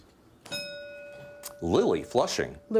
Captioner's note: bell dinging